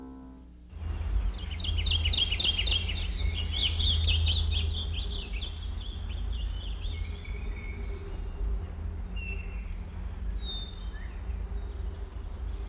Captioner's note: birds singing